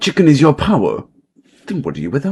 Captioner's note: silence 😔